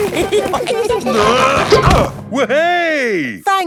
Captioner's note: all giggling; grunting